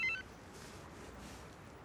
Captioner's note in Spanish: Suena el celular